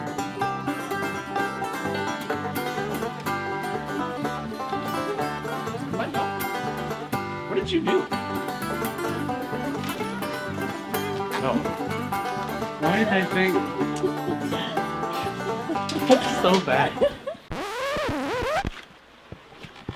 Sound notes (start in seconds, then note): 17.4 record scratch